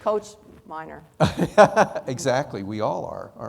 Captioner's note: laughing